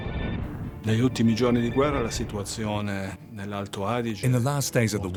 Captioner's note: speaks in foreign language